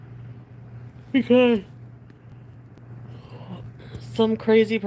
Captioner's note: yawns